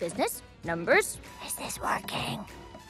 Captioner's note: whispered